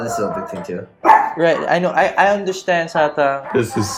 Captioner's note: barks